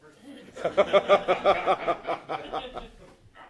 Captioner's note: laughter